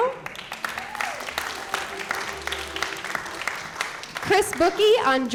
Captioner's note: applause